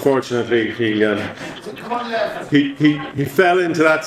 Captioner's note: speaker 1 speaking away from microphone